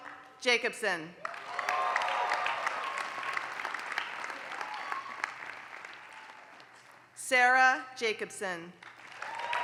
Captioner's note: applause; applause